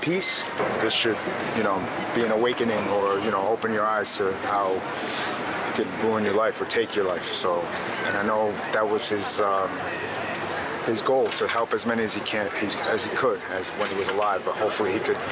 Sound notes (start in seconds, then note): none